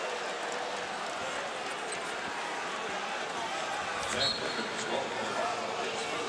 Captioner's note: crowd boos